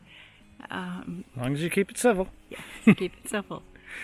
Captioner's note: chuckling